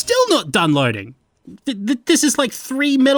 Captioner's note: stutters